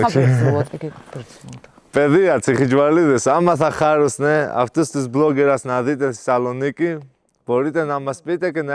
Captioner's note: speaking Greek